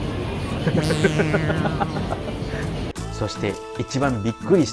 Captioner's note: laughs